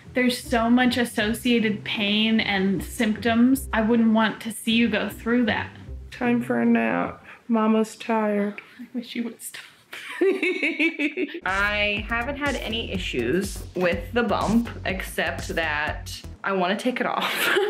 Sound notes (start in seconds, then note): 10.0 laughing